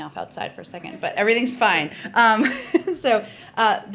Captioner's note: laughs